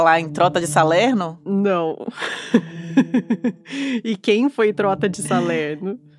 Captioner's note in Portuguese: com riso na voz; risadas; música ao fundo se encerra